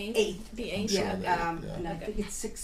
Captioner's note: voiceover